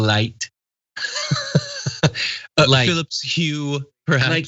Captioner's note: laugh